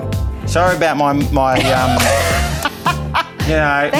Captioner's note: presenters laugh